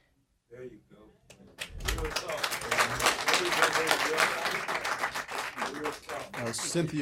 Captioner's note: applause